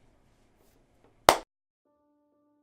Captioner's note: clap